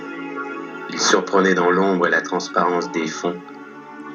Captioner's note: voiceover of man speaking in french